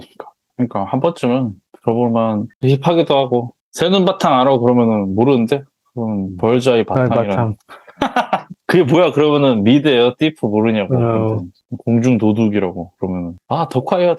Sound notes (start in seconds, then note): 7.6 laugh